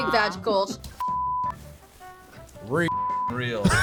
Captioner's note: beep; beep